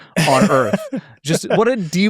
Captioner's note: laughs